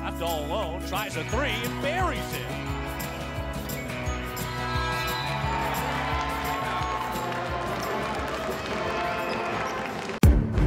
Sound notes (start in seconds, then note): 4.8 buzzer sounding; 7.5 band playing